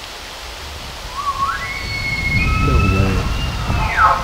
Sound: bull elk bugles back

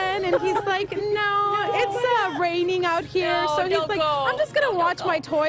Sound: laughter

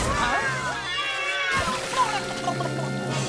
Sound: meowing

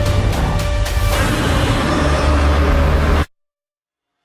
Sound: Evolved Godzilla roars

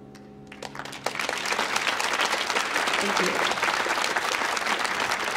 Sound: audience applauding

